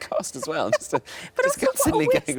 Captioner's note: laughing